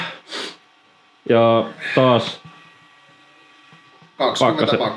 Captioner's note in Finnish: niiskauttaa